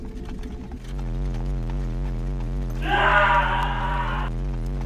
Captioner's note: electric Warbling; scream